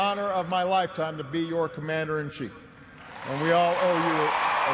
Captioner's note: cheers and applause